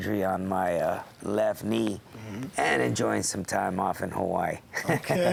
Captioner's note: laugh